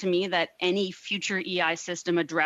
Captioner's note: speaking French